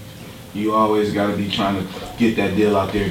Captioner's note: voiceover